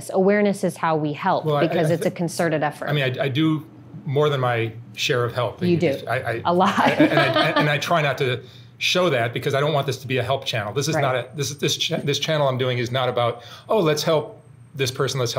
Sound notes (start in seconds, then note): 6.7 laughs